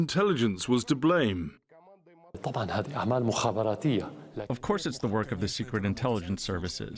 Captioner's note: through translator